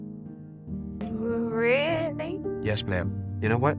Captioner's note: stuttering